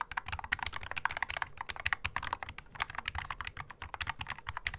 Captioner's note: keystroke sound